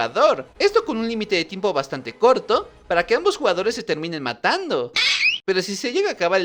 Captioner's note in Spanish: Grito